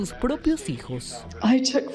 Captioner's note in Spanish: habla en ingés